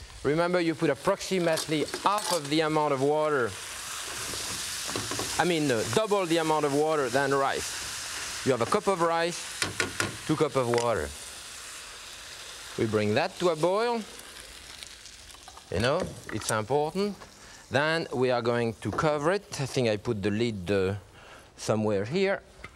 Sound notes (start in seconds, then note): 3.6 food sizzling; 9.3 cooking spoon thudding